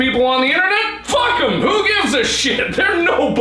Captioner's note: yelling; laughing